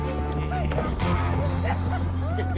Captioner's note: men laughing